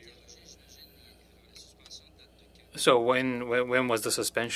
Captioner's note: speaking French